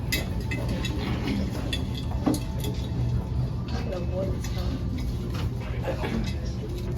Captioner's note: glass bowl clinking and papers rustling